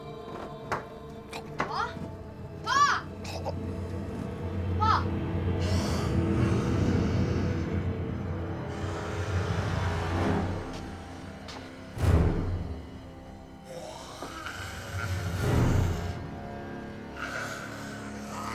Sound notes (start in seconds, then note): 1.0 gurgling